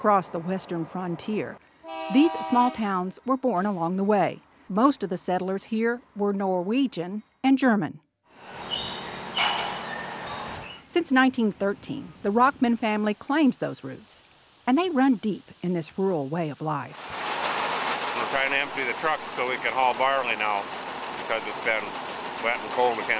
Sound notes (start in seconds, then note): 8.4 wind mill squeaks